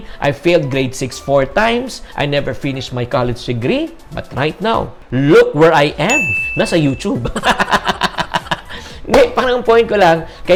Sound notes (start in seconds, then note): 6.0 chime; 7.2 laughs